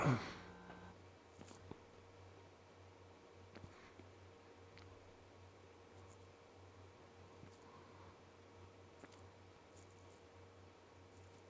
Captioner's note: silence